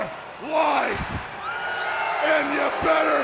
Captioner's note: audience cheers